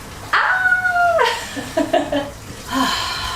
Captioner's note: laughing